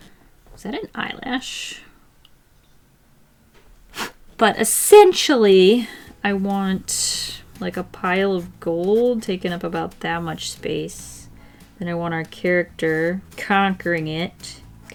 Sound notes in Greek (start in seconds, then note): 3.8 Φύσημα